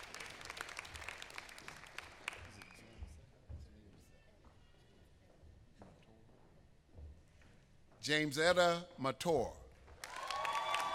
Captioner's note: applause